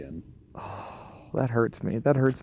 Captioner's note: sighing